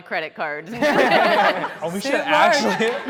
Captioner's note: everyone laughing